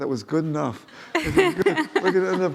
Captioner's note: laughing